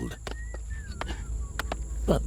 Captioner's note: workers whistling